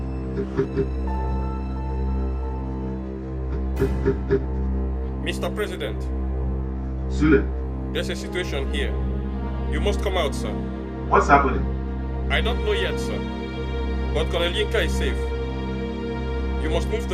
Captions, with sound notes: (knocks door) Mr. President. Sule. There is a situation here, you must come out, sir. What is happening? I don't know yet, sir. But Colonel Yinka is safe,